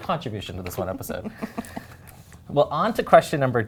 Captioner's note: chuckles